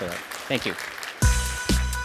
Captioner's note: applause